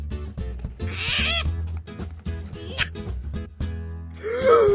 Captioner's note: gremlin screches along with Poe's like "No" in Polish